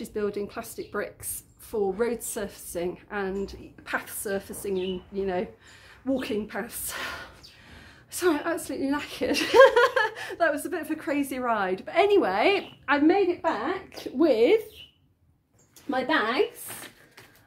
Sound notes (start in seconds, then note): 6.8 breathing heavily; 9.4 laughing